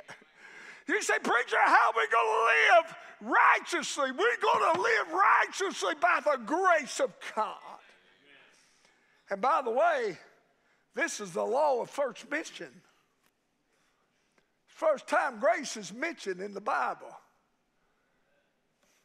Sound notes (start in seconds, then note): 0.5 preacher laughing; 5.4 fist banging